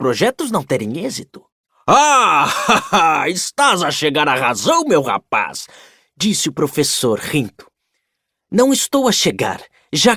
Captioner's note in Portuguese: risadas